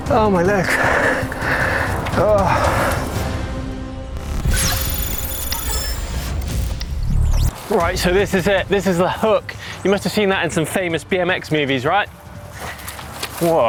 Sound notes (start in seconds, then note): 0.4 breathing heavily; 4.2 electronic beeping